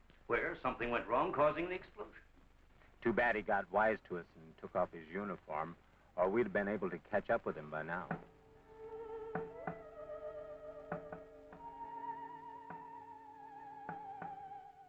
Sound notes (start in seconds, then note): 8.4 eerie music; 9.3 van tapping